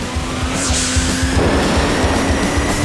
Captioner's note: engine revving; explosion; rockets firing